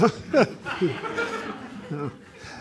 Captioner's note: audience laughing; laughs